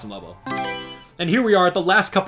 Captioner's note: Mario Selection Sound